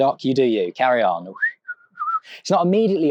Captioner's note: whistles